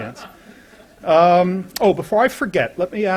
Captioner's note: laughter